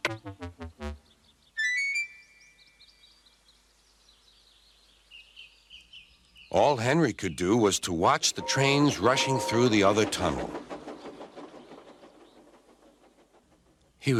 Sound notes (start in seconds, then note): 2.8 birds chirping; 11.7 Gordon whistles and rushes past